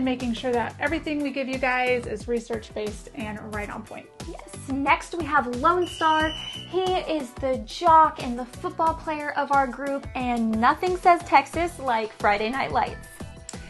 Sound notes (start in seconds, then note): 5.7 A Whistle sounds